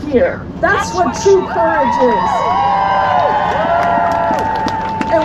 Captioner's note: cheering